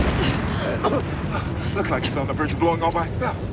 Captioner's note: coughing